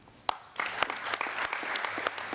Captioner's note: applause